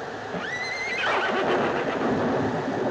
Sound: horses whinnying

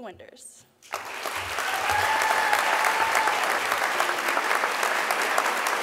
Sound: audience applause

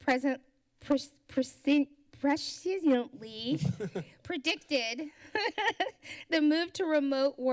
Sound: laughs

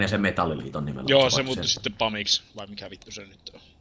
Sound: none

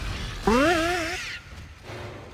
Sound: boing

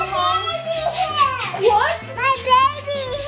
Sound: makes choo choo sounds

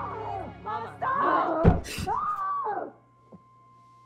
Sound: screams

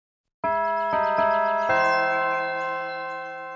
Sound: bells chime

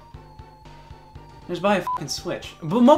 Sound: beep

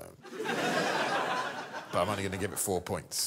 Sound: crowd laughs

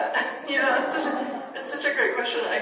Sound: laughs

